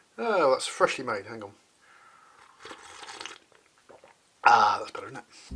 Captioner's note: sips more tea